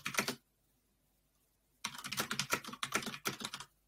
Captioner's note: keyboard typing